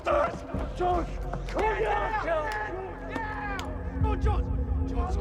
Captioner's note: indistinct shouting